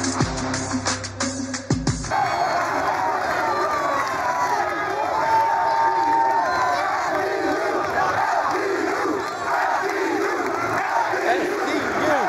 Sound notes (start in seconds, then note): 2.3 all cheering